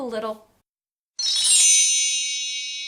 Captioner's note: chimes